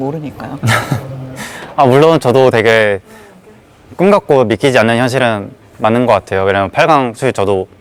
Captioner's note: laughs